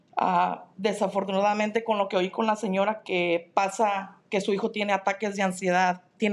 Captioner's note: speaking in Spanish